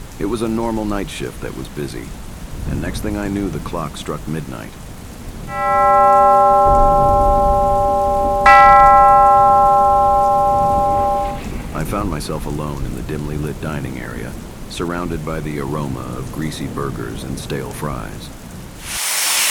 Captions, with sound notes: It was a normal night shift that was busy and next thing I knew the clock struck midnight, (BELL RINGS) I found myself alone in the dimly lit dining area, surrounded by the aroma of greasy burgers and stale fries. (GRILL SIZZLING)